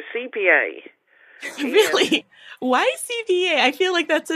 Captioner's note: laughing